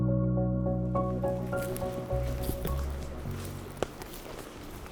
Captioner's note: light ambient music; footsteps